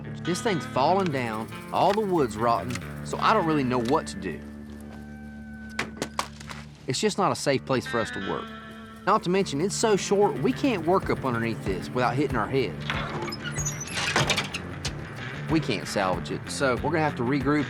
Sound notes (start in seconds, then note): 5.3 thud; 12.8 creaking thud